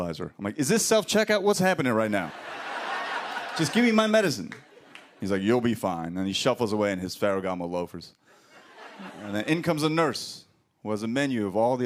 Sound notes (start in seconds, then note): 2.2 laughter